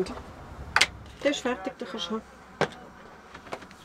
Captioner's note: in Swiss German